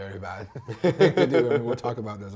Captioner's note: both laughing